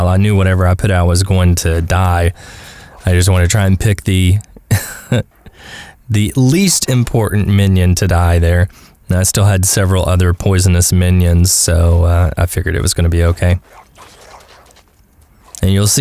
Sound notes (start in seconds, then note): 4.4 haha